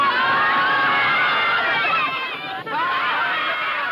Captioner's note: children yelling